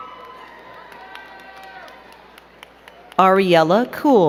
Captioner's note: crowd cheering and clapping